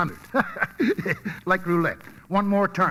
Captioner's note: laughs